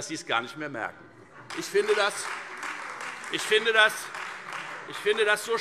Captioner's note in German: Beifall Freie Demokraten und AfD - Zurufe